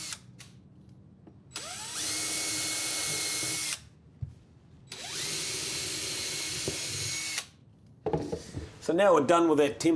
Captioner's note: drill